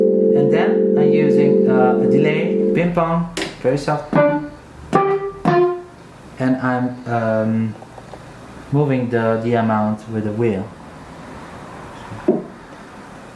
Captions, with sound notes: e poi uso un DELAY (stereo ping pong), con un amount non invasivo e alzo l'intensità con la modulation wheel